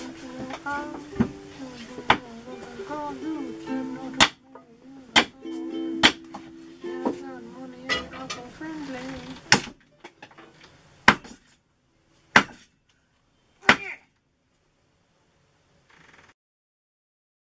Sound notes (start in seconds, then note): 0.2 singing; 9.6 chop, chop, chop, chop